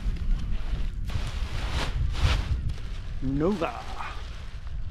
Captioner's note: paraglider crinkling